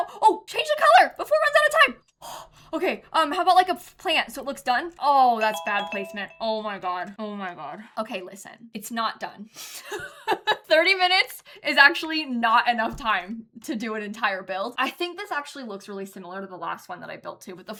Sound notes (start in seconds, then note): 5.4 timer goes off